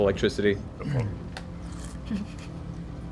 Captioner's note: quietly